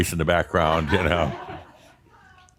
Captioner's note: shouts again